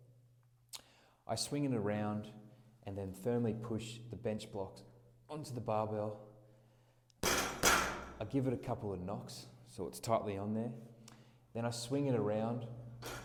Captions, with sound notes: I swing it around, and then firmly push the Bench Blokz onto the barbell. (hand thumping) I give it a couple of knocks, so it's tightly on there. Then I swing it around,